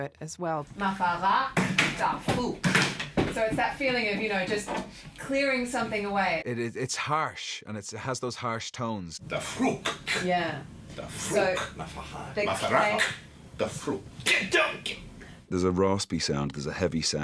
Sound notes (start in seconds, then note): 0.2 speaking in dwarvish; 8.9 speaking in dwarvish; 12.5 grunts